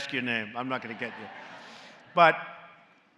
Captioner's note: laughter